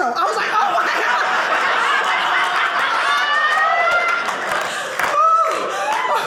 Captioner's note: audience laughing